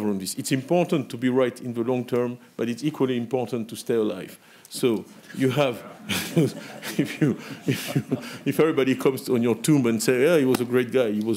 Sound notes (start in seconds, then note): 5.8 laughs